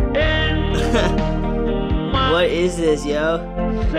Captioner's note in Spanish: riendo